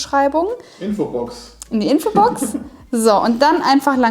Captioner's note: laughing